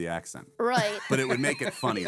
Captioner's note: laughing